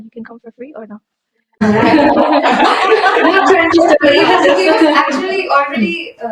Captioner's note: laughter